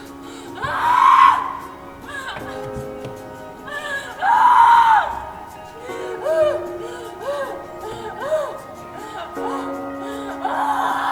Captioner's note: crying